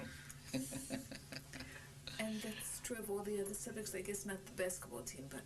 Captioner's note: laughs